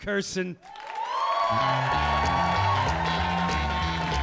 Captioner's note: audience cheering